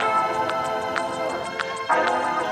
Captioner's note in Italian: Applauso